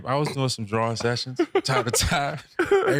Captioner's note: laughing